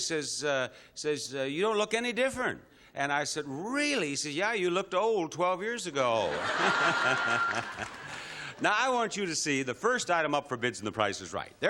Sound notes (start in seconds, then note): 6.2 laughter